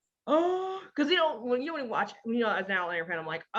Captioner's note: gasps